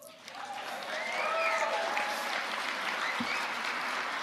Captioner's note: audience cheering